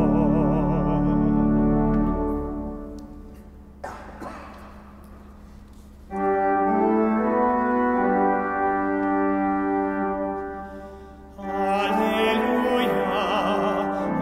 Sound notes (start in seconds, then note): 3.8 person coughing; 6.2 organ music playing